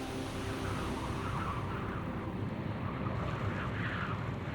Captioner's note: wind howling